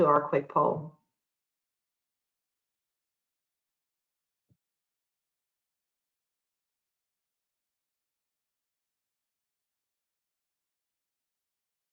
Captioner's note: silence